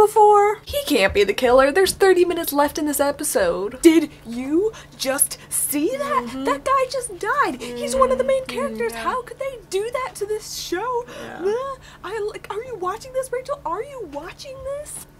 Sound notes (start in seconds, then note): 5.7 voice slowly gets softer